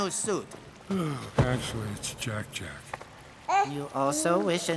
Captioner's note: gurgles